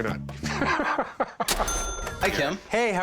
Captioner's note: chuckling